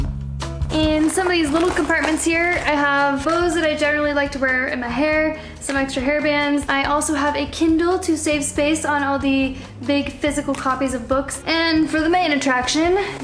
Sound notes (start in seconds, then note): none